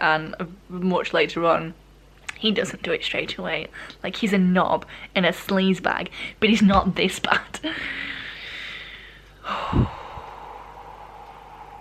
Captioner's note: deep breaths